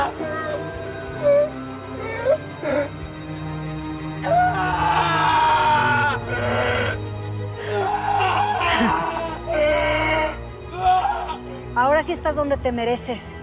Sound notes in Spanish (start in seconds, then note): 4.2 Gritos